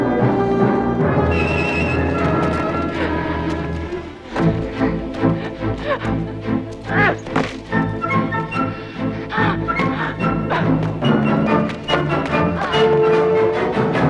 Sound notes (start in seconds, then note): 6.0 Hundra chuckles; 7.2 man grunts; 8.7 Hundra gasps